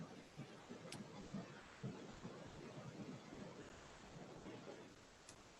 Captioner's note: computer mouse clicking